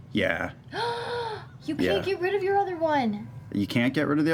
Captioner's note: gasps